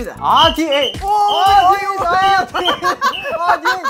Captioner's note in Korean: 삐삐삑; 삐삐삐삐